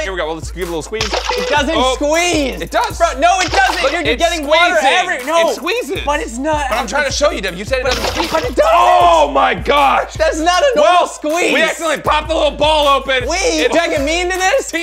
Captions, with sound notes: Here we go, I'll give it a little squeeze. (splash) - It doesn't squeeze. - It does! - No it doesn't, you're getting water every-- - It's squeezing, it squeezes. - But it's not. - I'm trying to show you, you said it doesn't-- (splash) Oh my gosh! - That's not a normal squeeze. - We actually popped the little ball open. - We? You're dragging me into this?